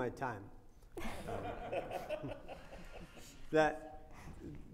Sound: audience laughing

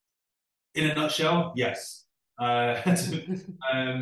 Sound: laughs

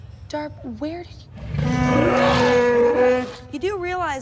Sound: wookie roar

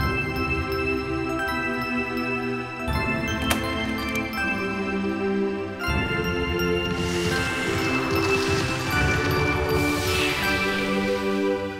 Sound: bells ringing

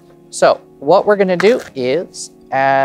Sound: cards riffling

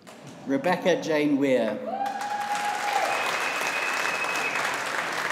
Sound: audience applauding

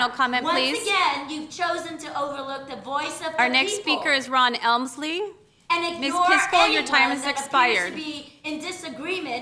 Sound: yelling

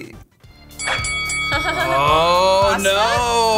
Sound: bell rings

